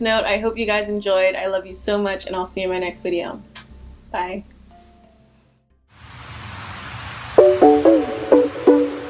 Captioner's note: kiss